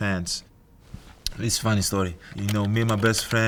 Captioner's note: keyboard clicking